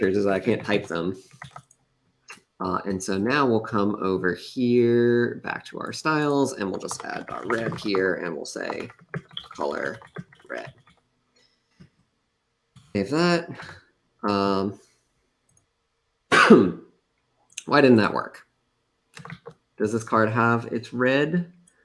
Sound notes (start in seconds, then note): 16.3 coughs